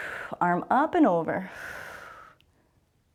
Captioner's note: exhales; exhales